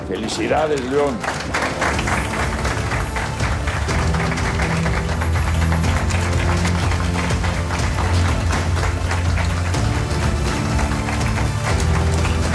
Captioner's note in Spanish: Aplausos